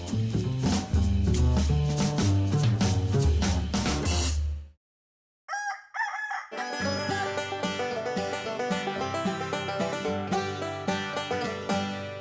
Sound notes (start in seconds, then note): 5.4 rooster crows; 6.5 banjo plays